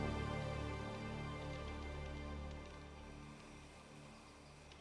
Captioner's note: fire crackling